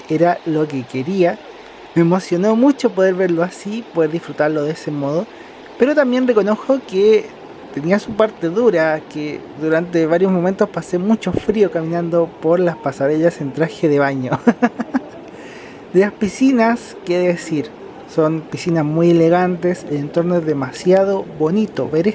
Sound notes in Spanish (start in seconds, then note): 14.2 risas